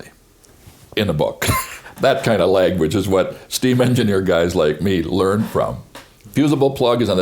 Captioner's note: chuckles